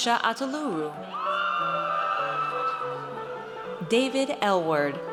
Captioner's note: audience cheers